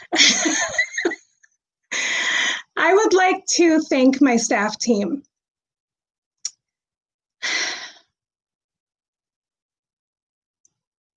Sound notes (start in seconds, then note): 0.1 laughs; 7.6 sighs